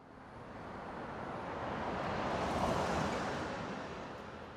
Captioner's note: truck sound